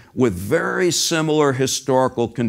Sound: none

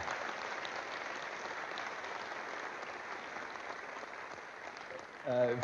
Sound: applause

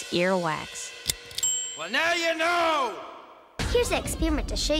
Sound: ding

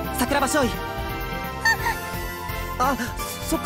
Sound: panicked gasp

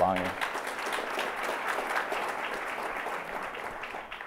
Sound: audience applauds

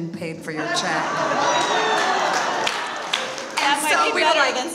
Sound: audience laughs and applauds

